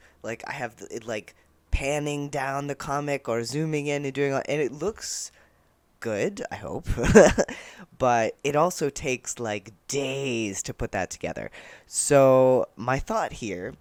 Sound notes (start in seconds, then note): 7.0 laughter